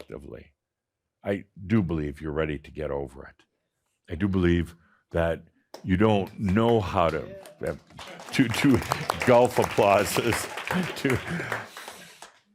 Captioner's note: teraz jeszcze więcej oklasków